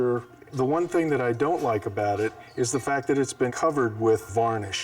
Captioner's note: none